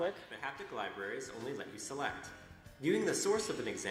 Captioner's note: voiceover